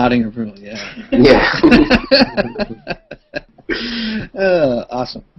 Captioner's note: laughter